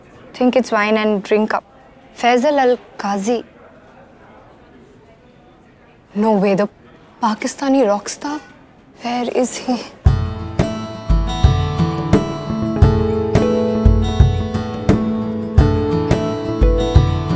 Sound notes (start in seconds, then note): none